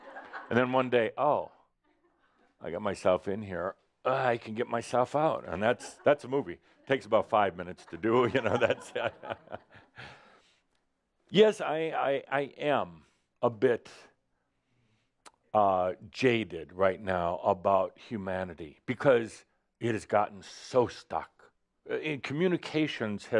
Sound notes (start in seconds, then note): 10.6 Adamus chuckles